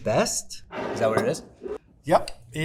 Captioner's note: jar scraping